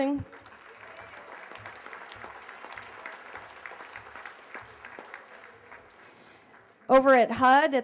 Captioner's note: applause